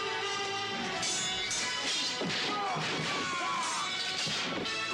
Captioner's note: dramatic music; swords clanking; men shouting